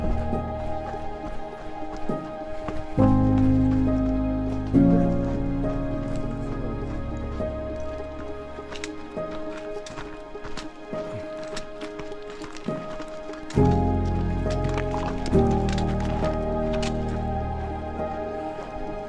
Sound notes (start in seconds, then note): 5.4 runners chattering; 9.1 poles clicking